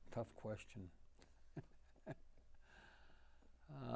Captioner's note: laughing